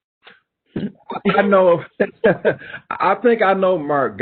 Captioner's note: laughing